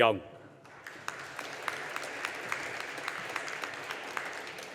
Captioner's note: audience applauding